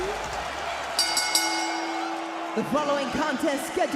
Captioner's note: bell rings